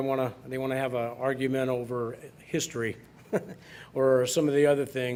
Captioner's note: laughs